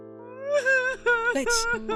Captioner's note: crying